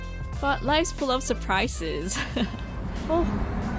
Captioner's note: laughs